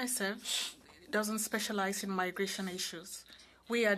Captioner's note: speaking in French